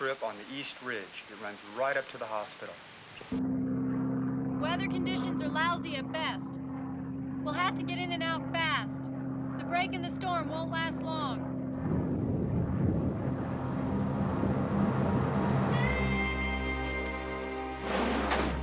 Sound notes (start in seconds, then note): 11.8 thunder rolling; 15.5 dramatic music